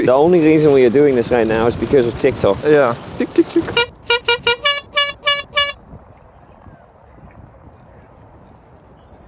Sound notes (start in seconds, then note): 3.8 horns